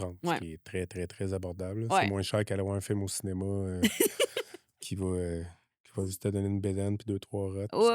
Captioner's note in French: rires